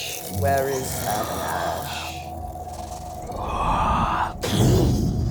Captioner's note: heavy breathing